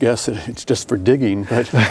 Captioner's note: laughing